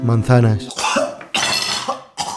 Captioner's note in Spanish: Se vomita